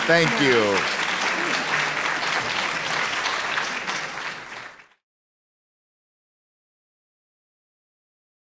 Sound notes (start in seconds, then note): 0.0 audience applauding